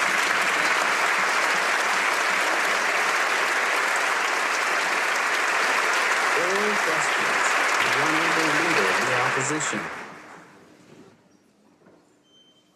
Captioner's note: applause